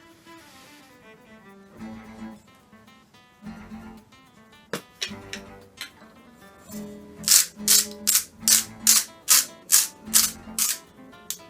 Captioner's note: salt grinding